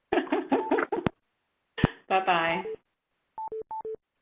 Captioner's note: laughs